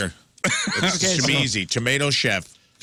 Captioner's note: laughing